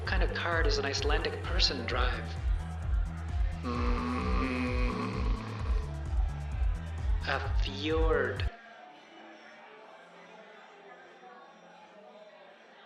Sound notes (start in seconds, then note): 3.6 groaning